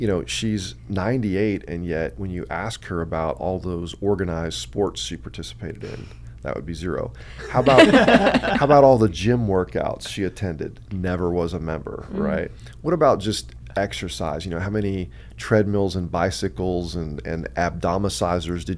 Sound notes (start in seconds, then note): 7.3 both laugh